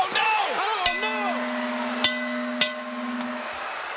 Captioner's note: bell clanging